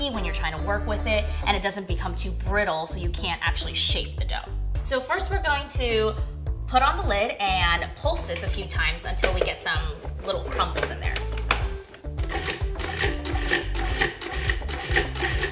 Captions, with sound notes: when you're trying to work with it, and it doesn't become too brittle, so you can't actually shape the dough. So first we're going to put on the lid and pulse this a few times, until until we get some little crumbles in there. (whirring)